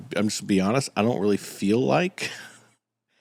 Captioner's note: laughs